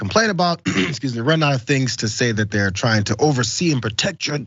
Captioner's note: cough